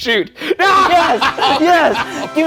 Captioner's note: shouting